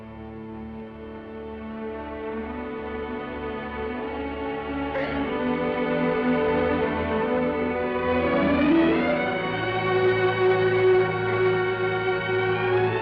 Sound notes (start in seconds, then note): 5.0 Vicki sobs; 5.0 gentle music